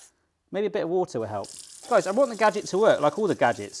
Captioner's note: water running